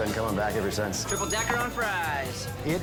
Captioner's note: bell dings